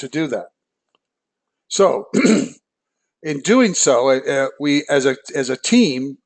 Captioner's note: cough